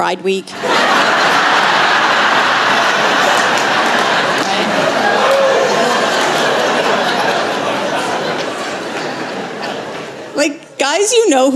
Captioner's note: laughter